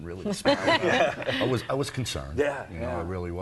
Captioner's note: laughter